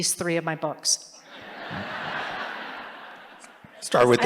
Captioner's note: laughter